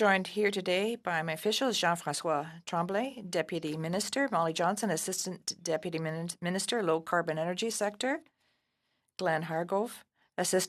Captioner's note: speaking French